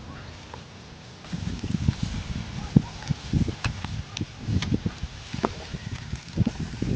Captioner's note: sizzling